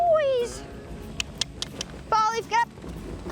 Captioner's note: clicks tongue